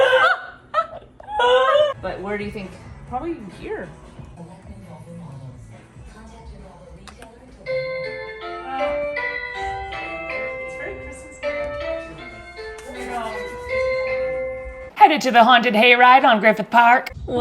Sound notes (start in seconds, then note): 0.0 laughing; 7.0 switch clicks; 7.8 doorbell ringing